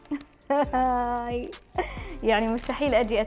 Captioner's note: laughs